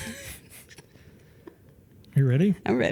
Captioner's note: laughing